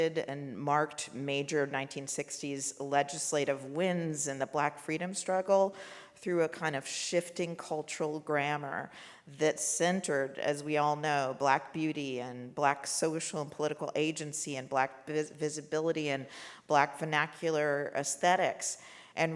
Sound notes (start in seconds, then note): none